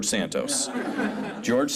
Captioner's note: scattered chuckles